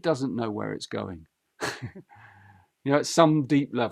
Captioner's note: laughs